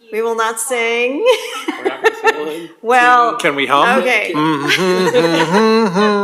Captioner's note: laugh